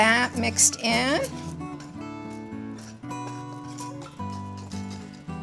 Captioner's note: whisk scraping